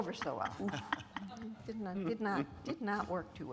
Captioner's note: speakers laughing